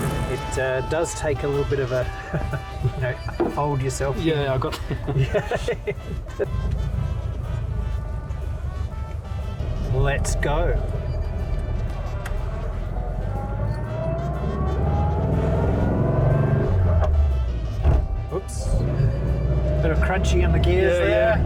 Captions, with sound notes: It does take a little bit of a fold yourself in Yeah, I got it. (laughter) Let's go. Oops. Bit of crunchy on the gears. Yeah.